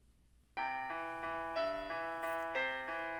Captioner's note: alarm plays